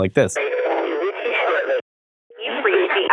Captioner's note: distorted